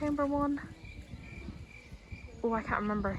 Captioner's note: cricket sound effect